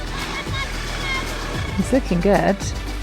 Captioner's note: people chatter